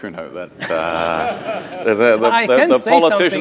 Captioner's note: audience laughing